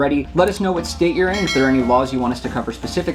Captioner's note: bell ringing